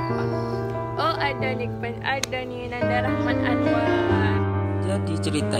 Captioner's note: on phone